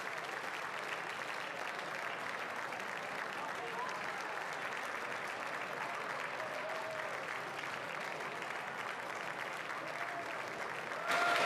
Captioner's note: cheering and applause